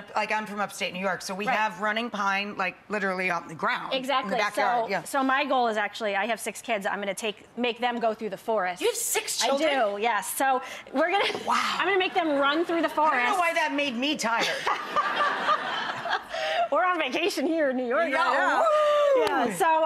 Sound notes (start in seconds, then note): 14.3 audience laughing; 14.4 laughing